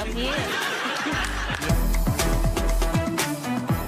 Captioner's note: audience laughing